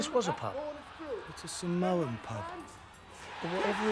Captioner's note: cheering on TV